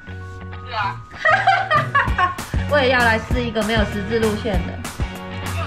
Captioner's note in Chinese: 笑聲